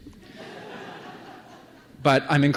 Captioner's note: laughter